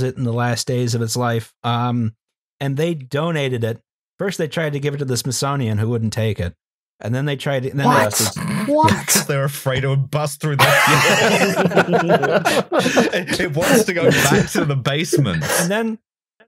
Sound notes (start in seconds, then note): 7.9 snorts; 10.5 laughter